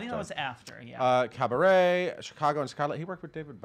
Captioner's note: stutters; stutters